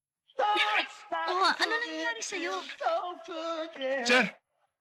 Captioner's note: coughs